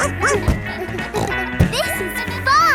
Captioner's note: snorts; barks